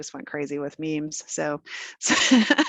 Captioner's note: laughing